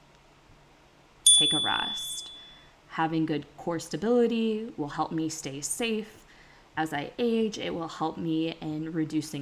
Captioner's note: chime